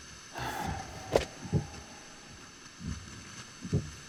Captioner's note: Len sighing